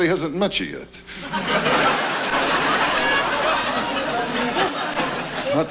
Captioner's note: audience laughs